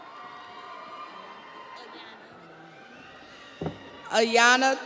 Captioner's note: audience cheers; audience applauds